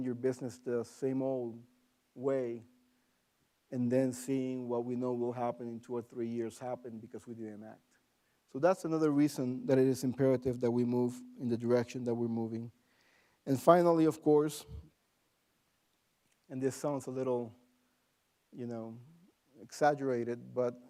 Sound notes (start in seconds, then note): none